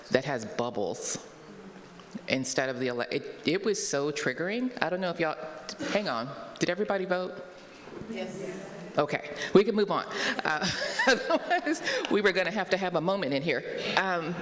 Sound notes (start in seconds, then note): 10.6 laughs